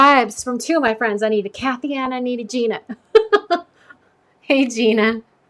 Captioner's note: laughs